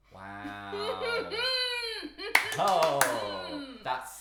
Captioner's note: chuckling and clapping